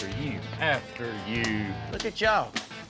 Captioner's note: slapping